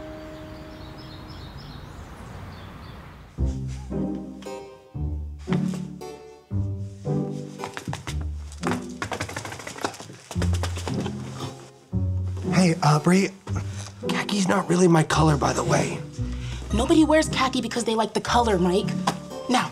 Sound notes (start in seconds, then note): 0.0 birds chirping; 3.4 suspenseful music; 9.4 shuffling